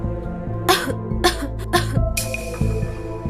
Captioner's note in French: Tousse